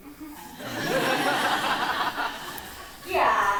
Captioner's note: audience laughing